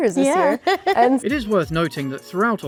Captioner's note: laughs